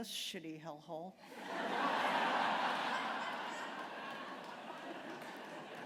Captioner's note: laughter